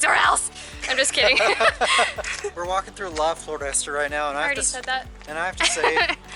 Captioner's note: laughter